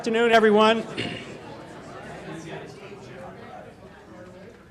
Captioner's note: murmuring